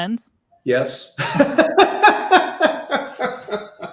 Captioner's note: laughing